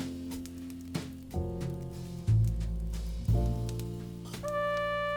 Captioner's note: fire crackles